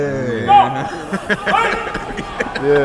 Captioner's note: laughing; referee shouts in the background